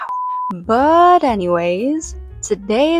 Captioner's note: beep